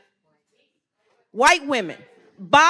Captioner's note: speaking faintly